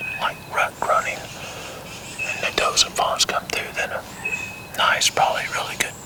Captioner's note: whispering